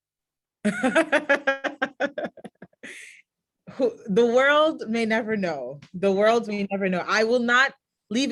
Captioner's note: laughs